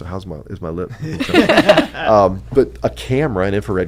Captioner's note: laughing